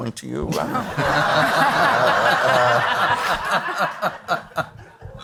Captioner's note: all laugh